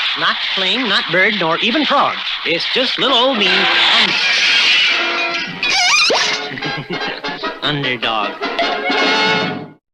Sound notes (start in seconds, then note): 3.8 crash!; 5.7 laughs!